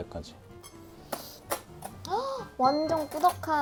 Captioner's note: sniff sniff